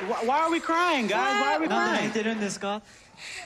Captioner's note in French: speaking Japanese